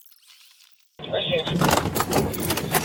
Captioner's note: radio chatter